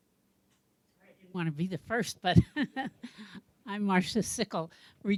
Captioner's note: laughs